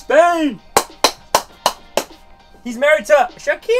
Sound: clapping

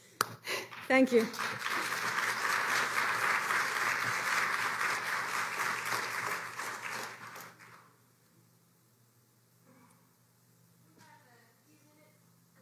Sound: applause

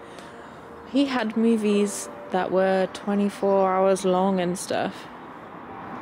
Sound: deep breath

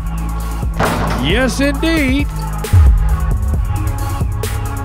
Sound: ball bouncing; ball dunking

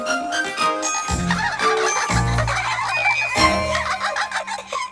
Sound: the Triplets giggle

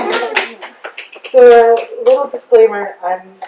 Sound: quick audience applause and cheers

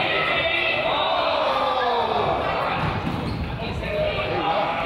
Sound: crowd groans

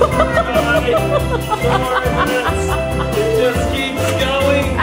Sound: laughs

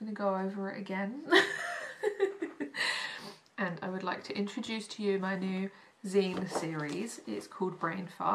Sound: laughs

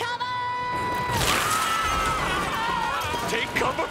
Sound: screaming

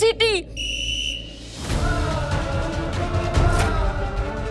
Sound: emotional vocalising

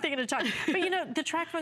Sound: laughter

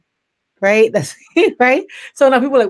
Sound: laughs

